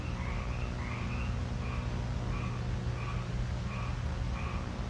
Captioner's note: crickets chirping